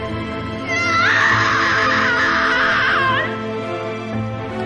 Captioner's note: screams